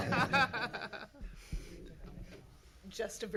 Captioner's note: laughing